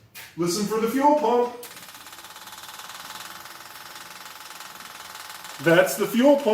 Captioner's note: electric fuel pump ticking